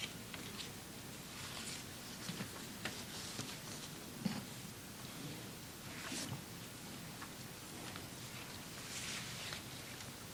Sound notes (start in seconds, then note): none